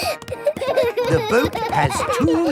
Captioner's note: snorting; kids giggling